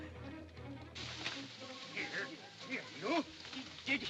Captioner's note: bushes rustling; men grumbling